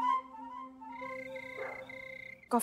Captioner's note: crickets chirping